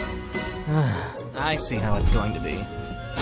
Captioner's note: sigh